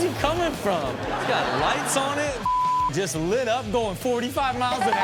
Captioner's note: beep